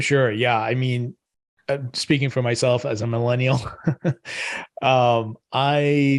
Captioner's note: chuckles